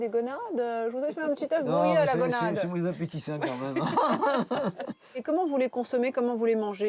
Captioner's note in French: rires